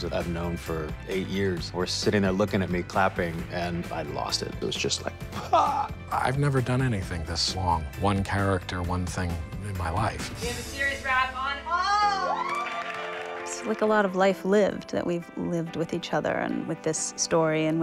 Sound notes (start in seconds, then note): 5.3 mimics sob; 11.6 cheers, applause